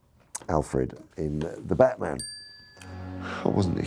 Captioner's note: bell chimes